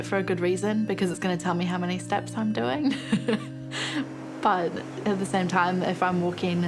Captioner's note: chuckles